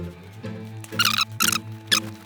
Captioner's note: squeaking